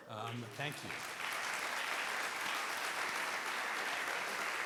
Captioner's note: audience applauding